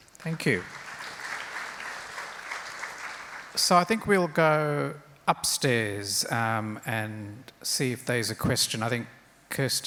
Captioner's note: crowd applauds